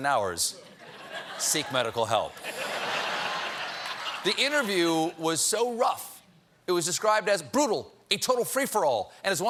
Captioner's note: laughter